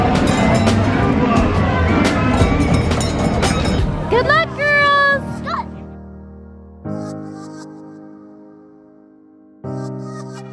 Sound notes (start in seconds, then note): 2.5 rings bell; 6.9 techno music